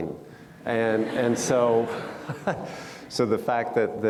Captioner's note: audience laughs